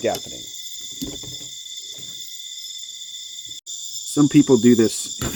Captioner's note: insects buzzing